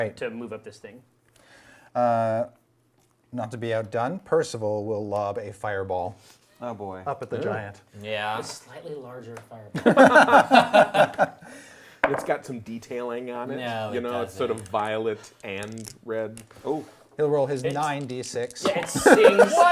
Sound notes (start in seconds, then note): 11.6 group laughs